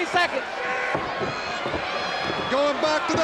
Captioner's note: crowd cheering